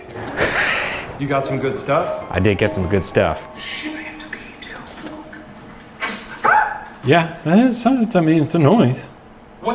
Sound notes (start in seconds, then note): 0.3 laughing; 6.1 item clicking; 6.4 screaming